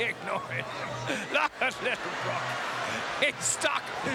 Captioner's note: laughing